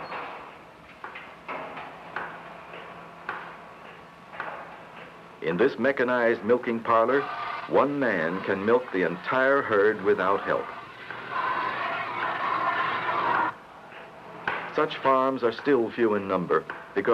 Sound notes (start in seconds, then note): 11.2 water spraying